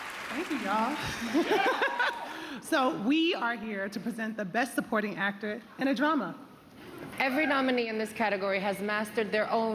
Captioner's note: cheers and applause